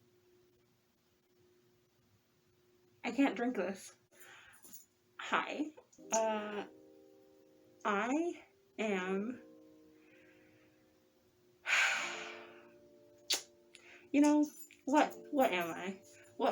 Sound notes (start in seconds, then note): 11.6 big breath; 13.2 lip smack